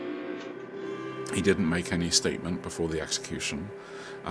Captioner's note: voiceover